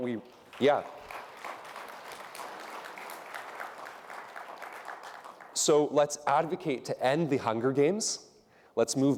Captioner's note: applause